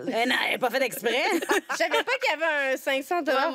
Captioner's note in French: rires